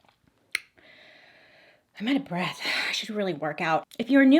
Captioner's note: sighs